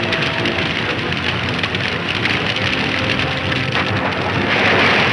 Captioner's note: water rushing